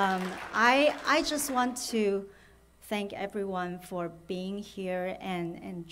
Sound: applause

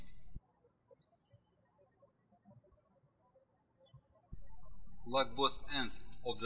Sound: birds chirping

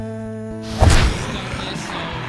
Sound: zombie growls

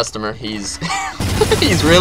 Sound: laughs

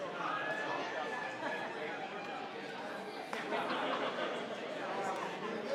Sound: group chattering continues

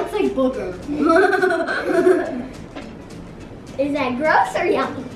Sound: giggles

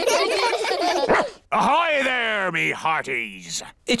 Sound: all giggle; barks

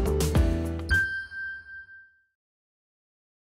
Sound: bright music; ding reverberates

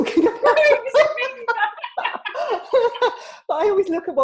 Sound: both laughs

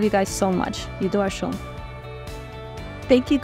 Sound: woman speaking foreign language

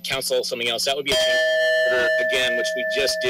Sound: bell dings

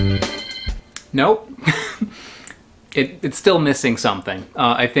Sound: laughs

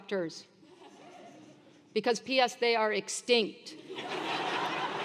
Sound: laugh; laugh

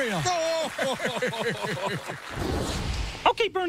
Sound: both laugh

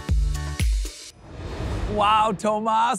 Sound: transition whooshing

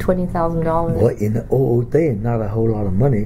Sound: coughs

